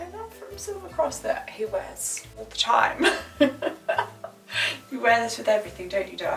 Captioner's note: laughs